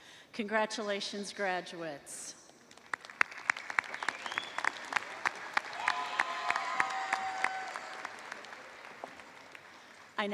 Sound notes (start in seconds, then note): 0.0 applause; 2.9 cheers and applause